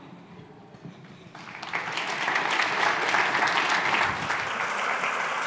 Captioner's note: applause